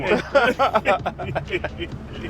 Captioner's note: laughing